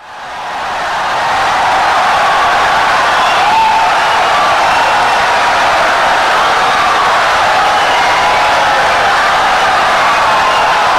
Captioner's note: wild applause and cheering for 17 seconds